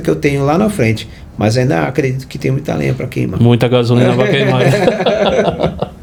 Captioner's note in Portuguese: risadas